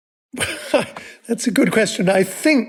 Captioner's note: laughs